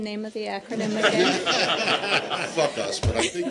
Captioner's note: laughter